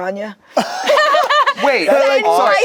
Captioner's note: group laughs